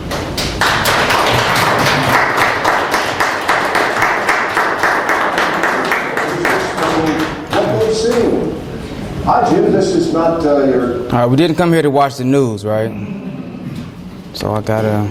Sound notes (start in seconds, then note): 0.0 students applaud; 7.7 video audio playing